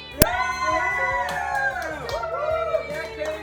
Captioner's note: family cheering